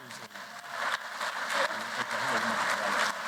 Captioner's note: applause